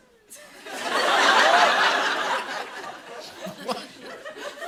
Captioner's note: laughter; chuckles